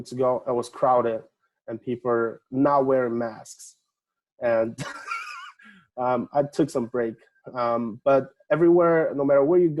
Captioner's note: laughing